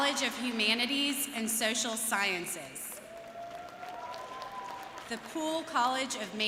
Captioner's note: cheering and applause